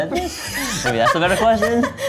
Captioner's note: all laugh